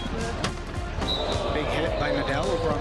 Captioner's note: whistle